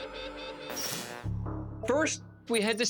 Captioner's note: static droning